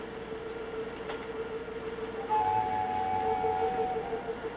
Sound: birds call

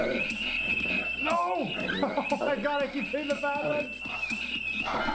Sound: laughing

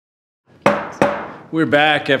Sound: gavel banging

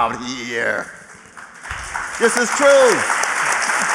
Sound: applause

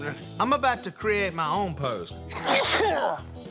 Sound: sneezes

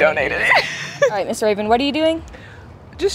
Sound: laughing

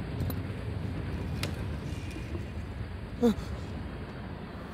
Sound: ominous scraping

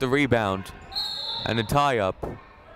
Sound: whistle blowing

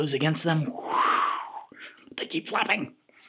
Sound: whooshing

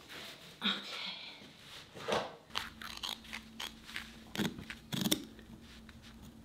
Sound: fabric ripping

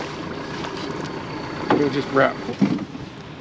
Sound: fish splashing

